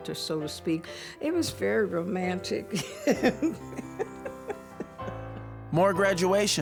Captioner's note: chuckles